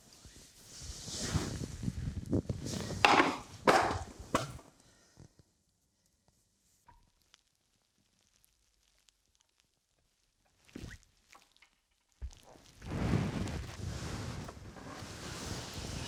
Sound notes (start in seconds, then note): 0.1 sheets whooshing; 3.6 picture thudding; 13.1 sheets whooshing